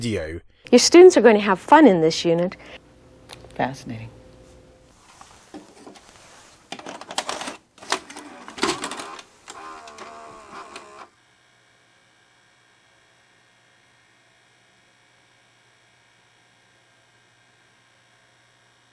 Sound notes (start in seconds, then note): 5.9 whirring; 6.2 clicking